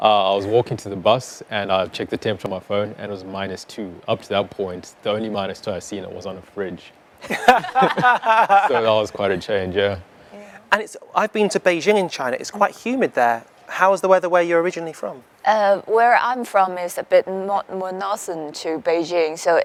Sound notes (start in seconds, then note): 7.2 all laughing